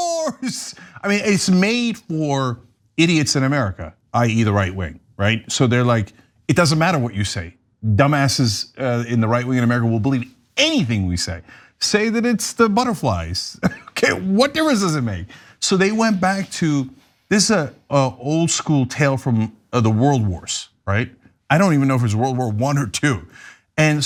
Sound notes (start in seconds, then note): 13.6 laugh